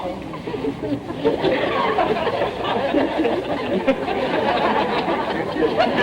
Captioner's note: audience laughter